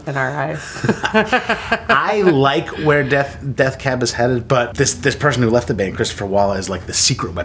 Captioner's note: laughter